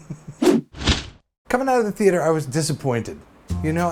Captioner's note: laughs; swooshes